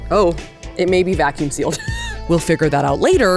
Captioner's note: laughs